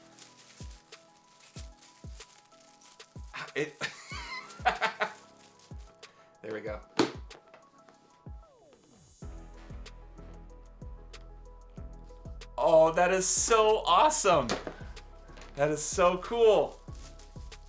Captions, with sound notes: (amused laughter) There we go. Oh, that is so awesome. That is so cool.